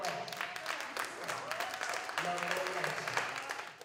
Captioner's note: applause